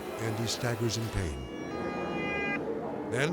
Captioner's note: siren blaring